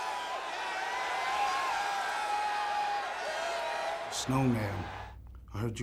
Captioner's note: crowd cheering